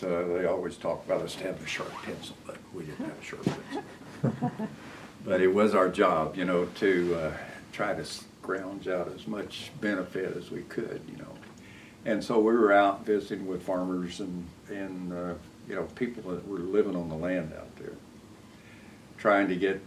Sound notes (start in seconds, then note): 3.5 laughter